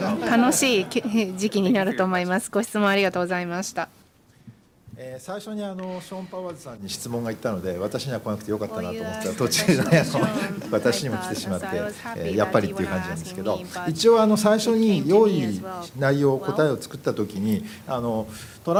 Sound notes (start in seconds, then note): 5.9 speaking japanese